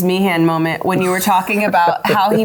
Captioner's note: laughing